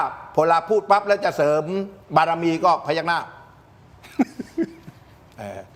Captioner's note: laughter